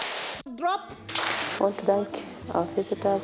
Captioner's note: students clap